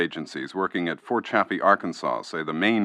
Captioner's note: archival news audio